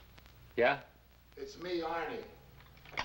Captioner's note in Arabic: تعليق صوتي